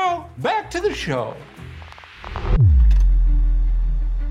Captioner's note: static buzzes; quiet suspenseful music